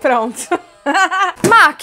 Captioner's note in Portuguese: risos